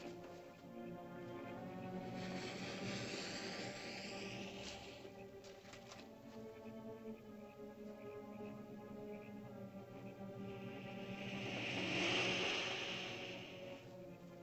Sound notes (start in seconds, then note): 0.0 lizard makes soft hissing sound; 5.5 frogs croaking; 5.5 ominous music; 10.2 lizard makes hissing sound; 14.2 ominous music